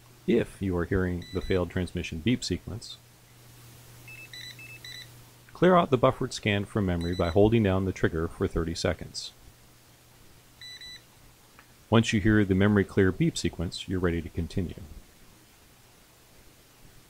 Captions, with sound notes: If you are hearing the failed transmission beep sequence (...scanner beeping) Clear out the buffered scan from memory by holding down the trigger for 30 seconds (...scanner beeping) Once you hear the memory clear beep sequence you're ready to continue